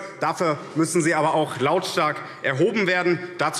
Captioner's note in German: none